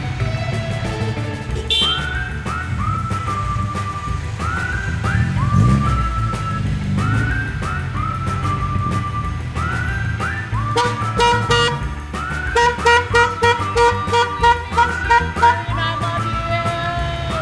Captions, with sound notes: (car horn honks) - We miss you and I love you.